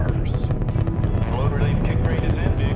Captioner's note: rocket roars